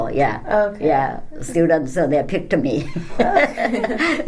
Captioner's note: all laugh